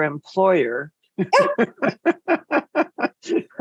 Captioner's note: laughs